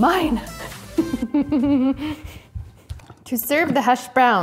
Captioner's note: chuckles